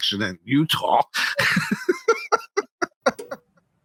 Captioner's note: laughing